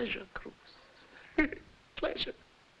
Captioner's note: laughing